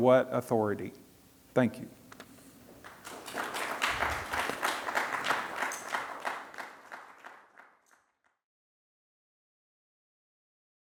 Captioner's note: applause